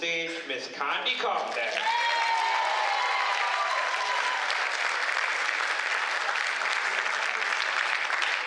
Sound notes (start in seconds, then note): 4.4 cheers